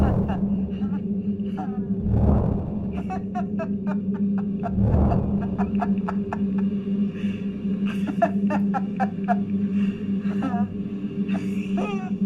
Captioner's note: eerie sounds and footsteps; giggling